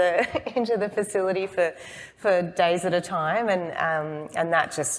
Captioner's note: laughs